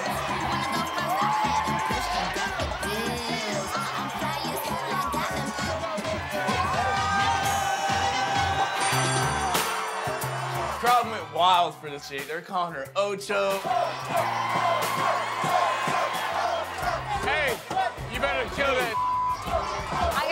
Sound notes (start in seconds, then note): 6.8 crowd cheers; 14.4 crowd